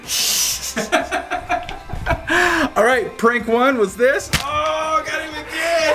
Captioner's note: laughs